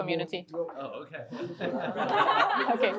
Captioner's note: laughter